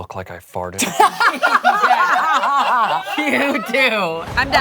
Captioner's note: laughing